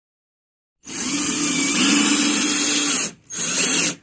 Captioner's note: tool buzzing